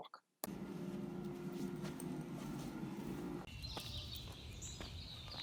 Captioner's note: ambient noise, birds chirping